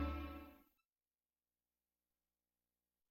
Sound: silence

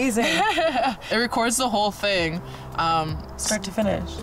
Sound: laughs

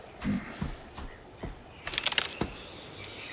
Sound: footsteps

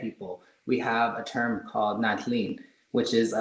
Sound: speaking in foreign language

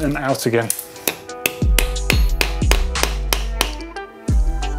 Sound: hammering

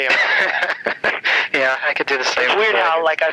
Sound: laughs

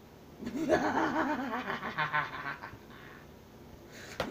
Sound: laughs evilly

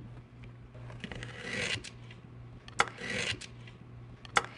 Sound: cutting

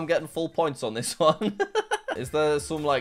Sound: laughs

